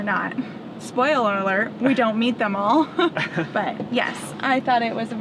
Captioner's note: laughs